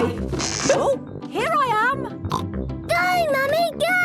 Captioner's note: pops